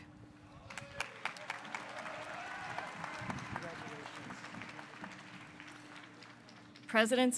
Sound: applause

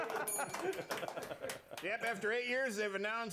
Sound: bell rings

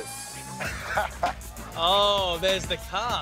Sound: laughs

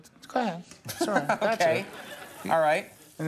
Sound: laughs

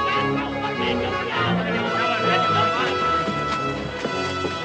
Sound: people chattering

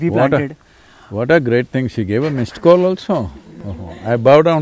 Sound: few laugh

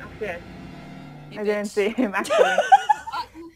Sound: laughs

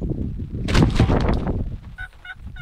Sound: plastic rattling; turkey calls

